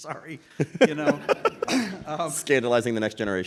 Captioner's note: laughing